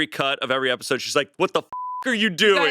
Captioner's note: beep